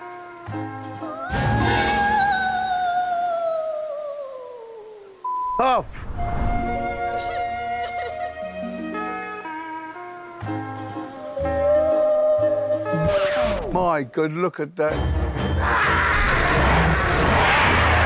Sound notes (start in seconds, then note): 1.1 evil cry; 7.1 sobbing; 15.6 screaming